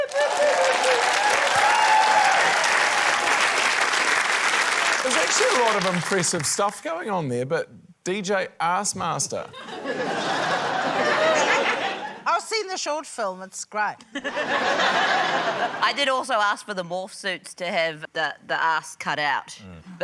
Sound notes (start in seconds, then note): 3.2 cheering, applause; 9.5 laughter; 15.0 laughter